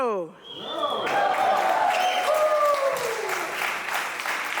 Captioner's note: audience applauding